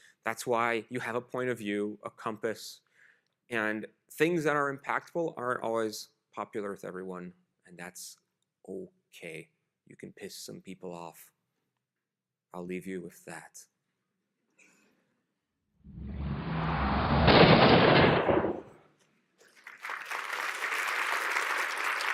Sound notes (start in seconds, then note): 15.8 loud whoosh; 19.4 applause